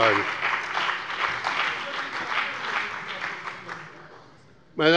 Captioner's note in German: Allgemeiner Beifall